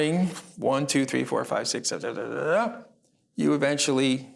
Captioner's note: mumbles